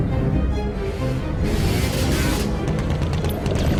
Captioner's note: motorcycle buzzing; gun firing; bullets ricocheting